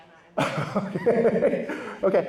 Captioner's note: laughs